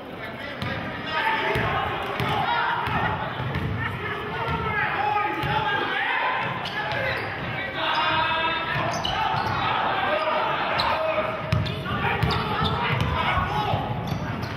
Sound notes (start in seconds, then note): 9.8 yelling